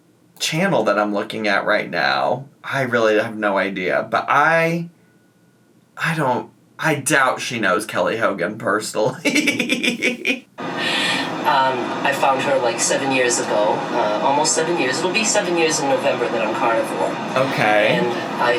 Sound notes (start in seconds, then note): 9.0 laughs